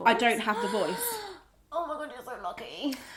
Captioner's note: gasps